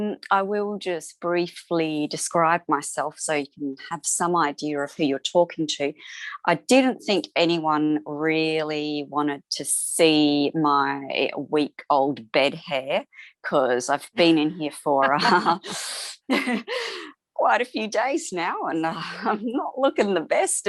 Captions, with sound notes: I will just briefly describe myself so you can have some idea of who you're talking to. I didn't think anyone really wanted to see my week-old bed hair because I've been in here for... (LAUGHS) quite a few days now, and I'm not looking the best.